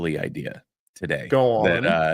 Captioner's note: laughter